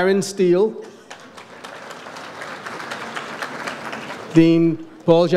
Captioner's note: audience applauds